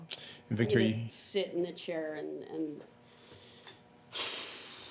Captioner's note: loud exhaling